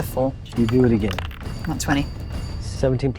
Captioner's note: die rattling